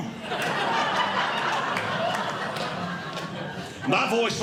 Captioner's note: audience Laughing